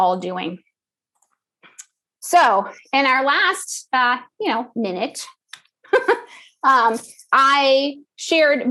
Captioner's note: laugh